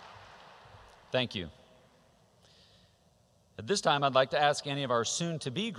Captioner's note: applause